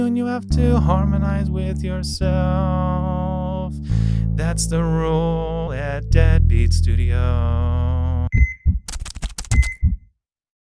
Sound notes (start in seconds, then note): 9.4 beeping